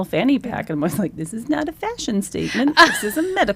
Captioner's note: laughs